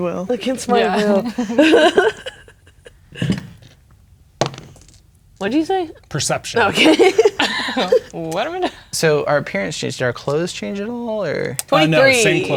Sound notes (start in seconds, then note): 0.7 laughing; 4.4 dice rolling; 6.6 laughing